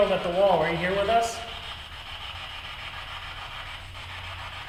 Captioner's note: static buzzing